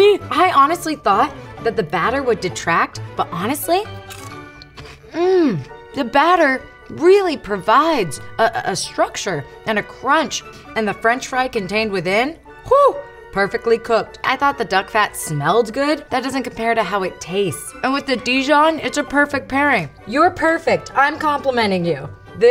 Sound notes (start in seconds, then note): 4.5 crunching